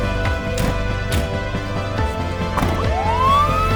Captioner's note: EMS doors closing; siren wailing